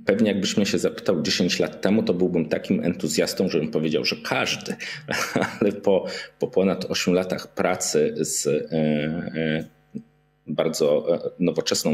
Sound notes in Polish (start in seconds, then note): 4.9 śmiech